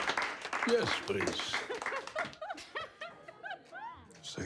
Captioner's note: laughter